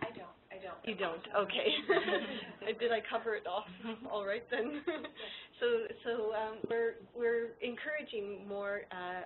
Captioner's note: laughter